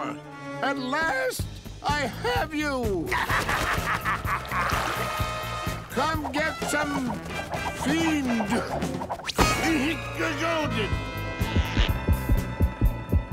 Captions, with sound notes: At last, I have you! [laughing] Come get some, fiend! [grumbling] [beating]